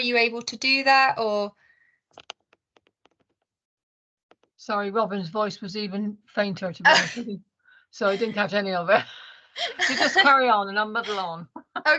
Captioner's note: laughter